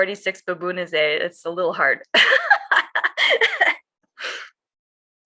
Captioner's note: laughs